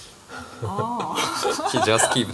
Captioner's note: laughs